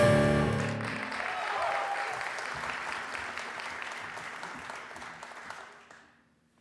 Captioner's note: audience applause